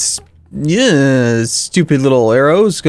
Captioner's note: groan